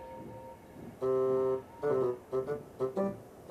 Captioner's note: whistles